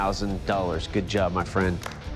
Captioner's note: applause